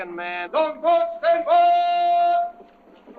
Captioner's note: yelling